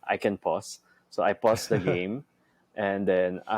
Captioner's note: chuckles